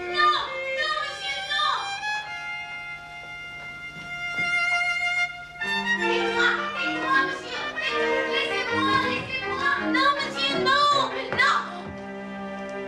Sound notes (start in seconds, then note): 5.6 shouting in French